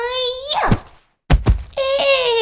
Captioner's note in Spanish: ¡Chasquido!